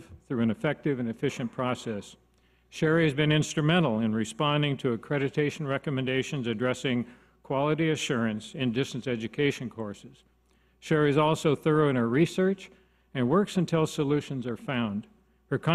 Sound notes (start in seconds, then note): none